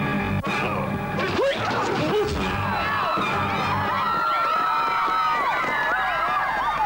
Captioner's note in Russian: крики